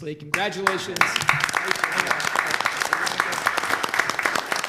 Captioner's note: applause